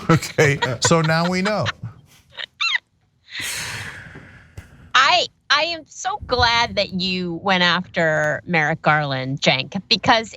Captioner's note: laugh